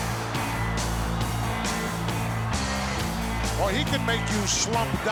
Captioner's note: audience cheering